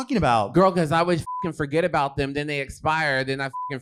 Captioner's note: beep